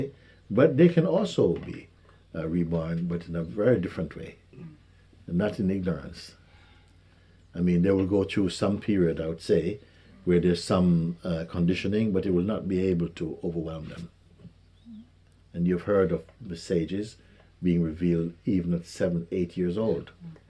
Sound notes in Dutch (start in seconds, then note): none